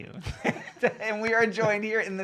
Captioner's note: laughing